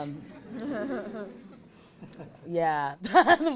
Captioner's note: audience laughs; laughs